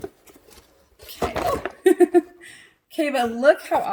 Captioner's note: laughs